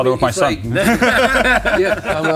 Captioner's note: all laughing